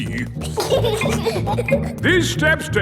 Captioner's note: giggling